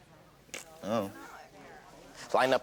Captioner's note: imitates fart